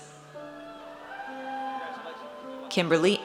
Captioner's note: audience cheers